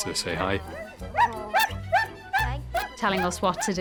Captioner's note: Kylo barking